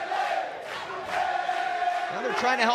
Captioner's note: fans chanting